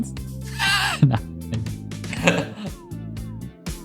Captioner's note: laughing